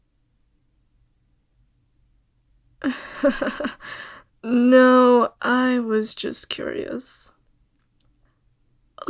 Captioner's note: laugh